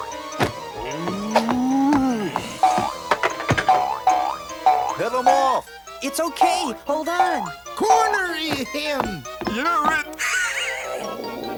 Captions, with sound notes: Head him off! It's okay, hold on! -Corner, uh, him! -You're it! (growls)